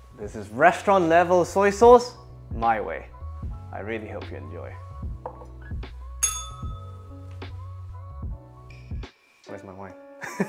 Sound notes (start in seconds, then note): 6.2 bell rings